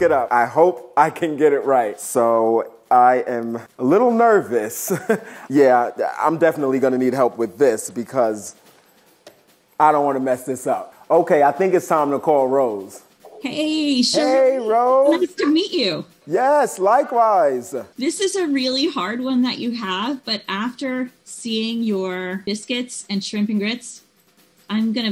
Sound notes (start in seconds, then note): 4.8 giggling